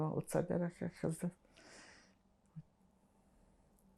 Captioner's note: pauses 10 seconds